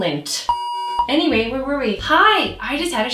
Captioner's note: scene beeps